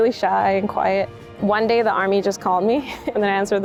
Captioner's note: chuckles